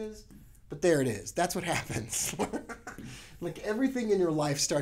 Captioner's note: laughs